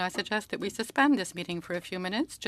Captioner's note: speaking in French